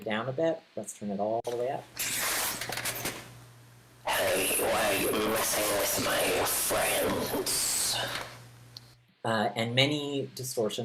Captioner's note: sound gets harsh